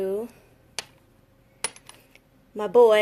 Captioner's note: clattering